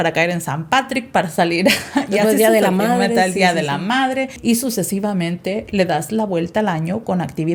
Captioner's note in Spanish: risas